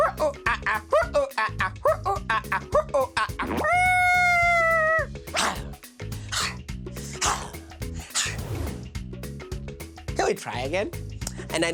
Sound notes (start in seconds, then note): 0.0 imitates monkey gibbering; 3.8 imitates elephant trumpeting; 7.0 imitates leopard roaring